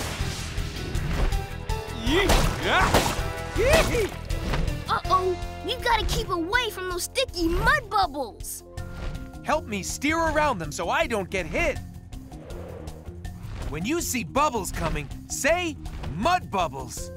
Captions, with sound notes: [yelling] Uh oh, we've gotta keep away from those sticky mud bubbles! Help me steer around them so I don't get hit. When you see bubbles coming, say mud bubbles!